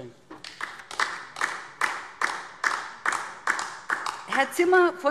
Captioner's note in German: Beifall DIE LINKE